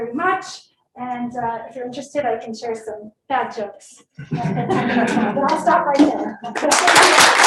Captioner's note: applause